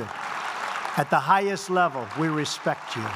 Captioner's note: applause